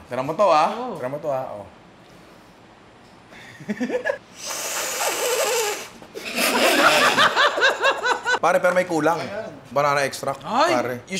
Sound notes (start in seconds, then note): 3.4 laughs; 6.2 laughter